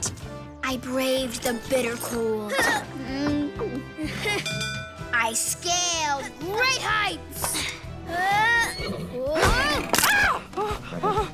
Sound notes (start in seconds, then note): 8.6 horse neighs; 9.4 screams